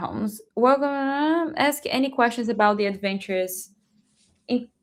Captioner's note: mumbling